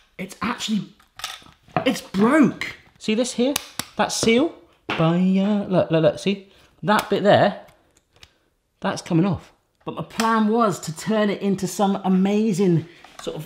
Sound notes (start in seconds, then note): 3.5 snaps